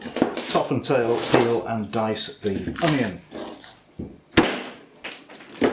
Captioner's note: chopping sounds